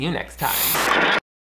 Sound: static crackles

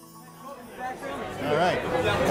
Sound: background party chatter

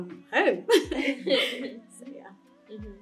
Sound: laughs

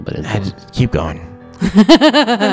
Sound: laughs

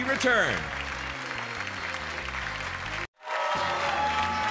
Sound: audience applauds; audience cheers and applauds

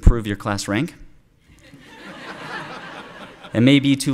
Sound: laughter

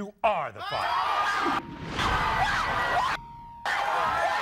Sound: screaming

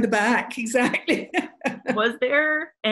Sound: laughter

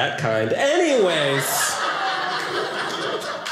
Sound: audience laughing

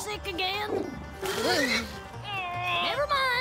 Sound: oinking

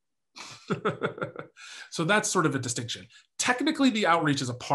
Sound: laughs

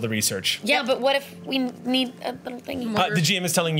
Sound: stutters to find words

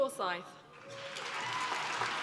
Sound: applause

